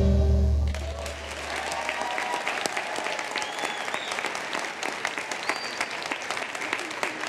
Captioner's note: applause